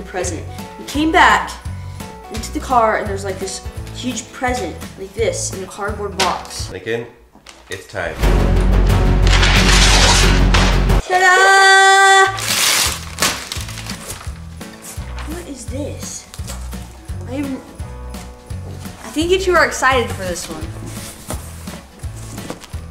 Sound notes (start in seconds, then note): 8.2 intense suspenseful music; 9.2 paper tearing; 12.2 paper ripping